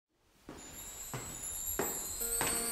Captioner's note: steps on the stairs in the hallway